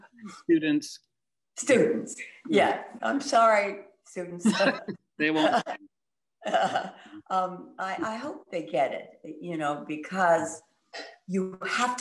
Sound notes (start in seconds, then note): 7.1 chuckles